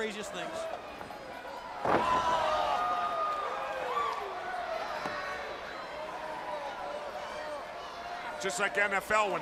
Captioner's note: crowd chatter